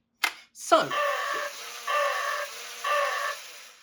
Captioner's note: electronic Roars